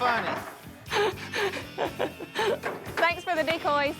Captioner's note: laughs